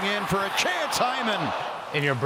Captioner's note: crowd groaning